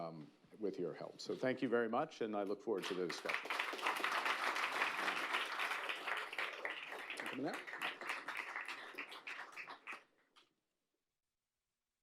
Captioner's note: applause